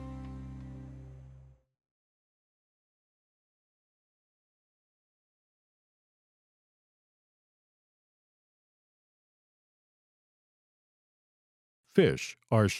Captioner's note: no audio